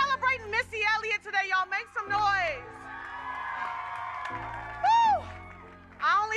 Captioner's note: audience cheers